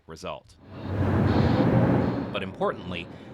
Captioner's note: construction noises